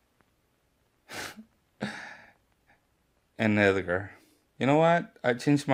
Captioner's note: laughs